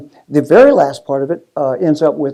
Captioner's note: none